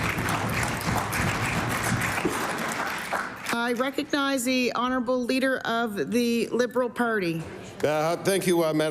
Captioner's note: applause